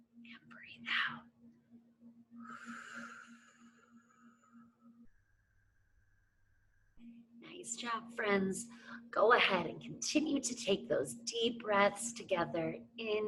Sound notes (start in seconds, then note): 2.4 exhales